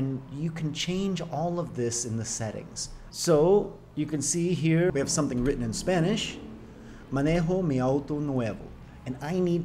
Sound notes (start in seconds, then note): 7.1 speaking spanish